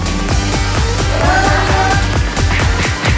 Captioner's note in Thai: เสียงโวยวาย; เสียงกระทืบ